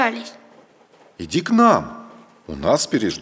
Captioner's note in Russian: мужской голос за кадром